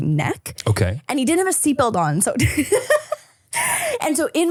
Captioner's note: laughing